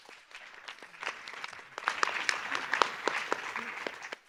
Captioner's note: audience applause